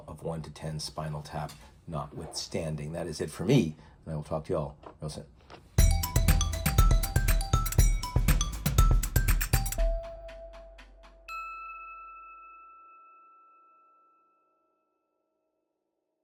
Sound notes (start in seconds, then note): 5.8 upbeat music; 11.4 logo dings